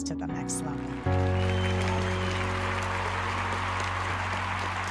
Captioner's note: audience clapping